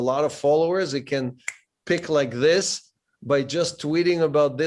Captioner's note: snaps